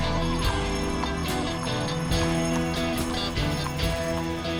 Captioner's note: horse hooves clopping